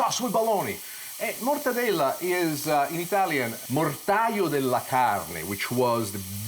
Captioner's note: speaks foreign language